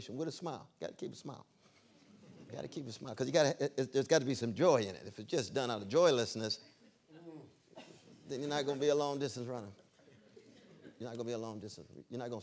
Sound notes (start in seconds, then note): 2.1 laughter